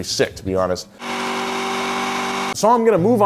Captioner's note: engine revving